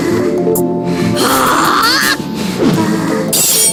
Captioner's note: roaring